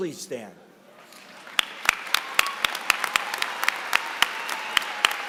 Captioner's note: applause